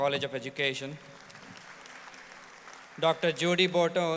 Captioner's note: audience applauds